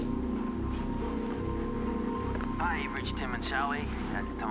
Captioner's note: phone ringing